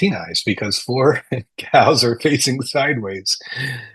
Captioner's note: chuckling